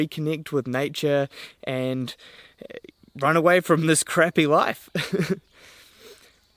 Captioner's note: laughs